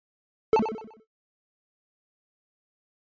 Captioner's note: ping